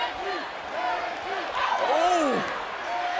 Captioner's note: crowd cheers